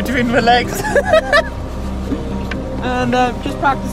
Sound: laughter

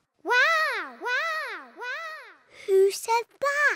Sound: peppa's voice echoes around mountains

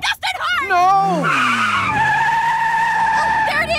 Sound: tires squealing

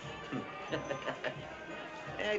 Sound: chuckling

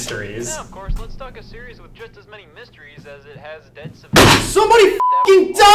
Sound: Scott on tape player

